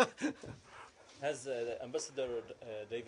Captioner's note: laughter